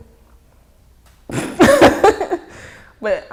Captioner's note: laughing